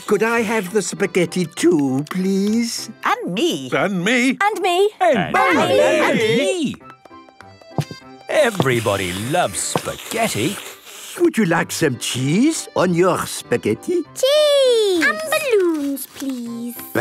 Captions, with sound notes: Could I have the spaghetti too, please? - (calling out in turn) And me! And me! And me...! - Everybody loves spaghetti. - Would you like some cheese on your spaghetti? - Cheese! - And balloons, please!